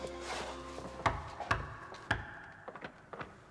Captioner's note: knocking